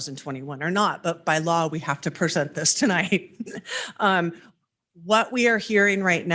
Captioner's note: chuckles